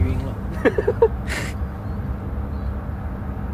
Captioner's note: wHEEZE